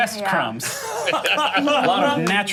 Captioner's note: laughing